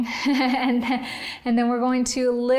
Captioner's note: laughing